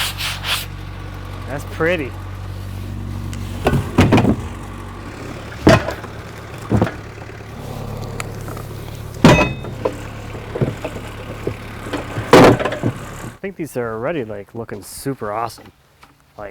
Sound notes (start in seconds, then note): 0.1 scrapes; 3.6 wood thuds; 5.9 metal clanks; 12.3 wood thuds